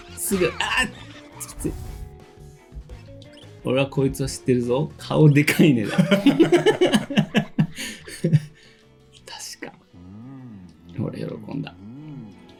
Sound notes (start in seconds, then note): 5.8 laughs